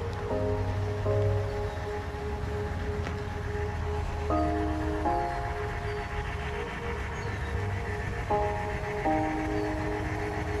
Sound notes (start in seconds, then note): 9.1 birds chirping; 10.0 soft music